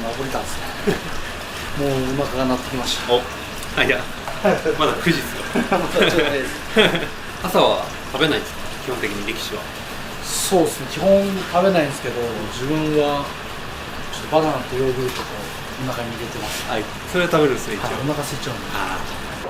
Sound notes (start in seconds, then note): 3.7 laughs